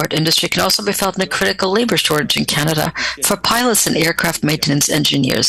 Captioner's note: speaking French